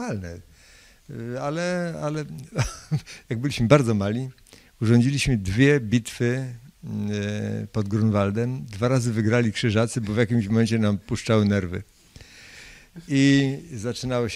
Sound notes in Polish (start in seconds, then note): 2.5 śmiech